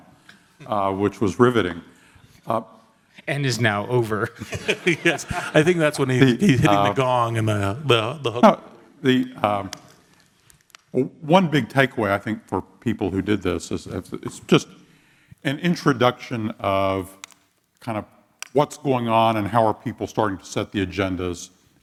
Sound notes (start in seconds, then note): 4.3 laugh